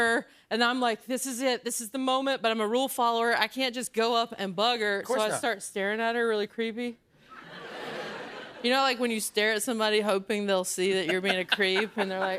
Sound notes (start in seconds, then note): 7.3 laughter